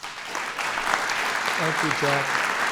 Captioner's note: applause